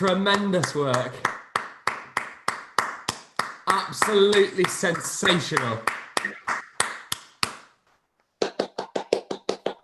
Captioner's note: clapping